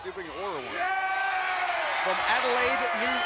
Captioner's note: crowd cheering